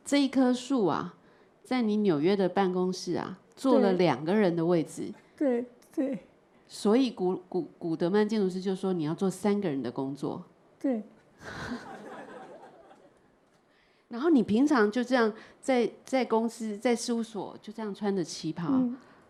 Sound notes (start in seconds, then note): 6.0 Mandarin; 11.6 audience laughter; 15.0 Mandarin